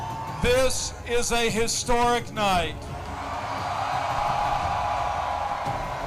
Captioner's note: crowd cheering